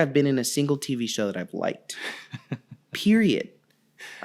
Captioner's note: laughing